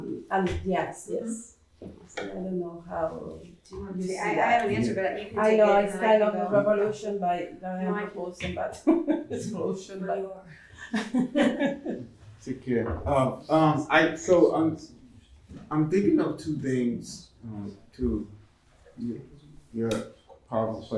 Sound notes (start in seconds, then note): 8.5 laughs; 10.6 chuckling